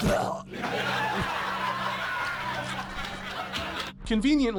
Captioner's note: laugh track